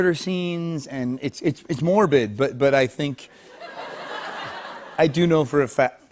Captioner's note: laughter